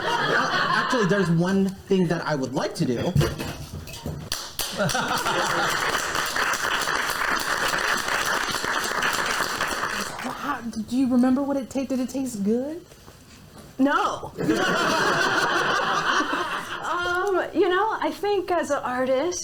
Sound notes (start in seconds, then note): 0.0 audience laughs; 4.3 applauds; 4.3 audience applauds